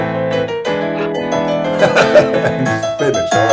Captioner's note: laughs